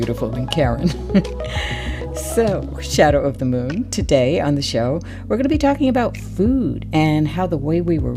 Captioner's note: laughter